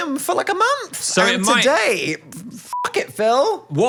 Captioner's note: beep